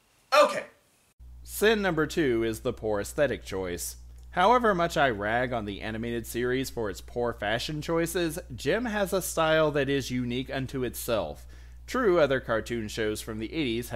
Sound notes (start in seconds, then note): none